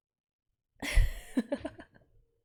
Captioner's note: laughs